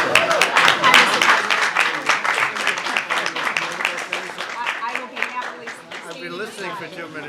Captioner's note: applause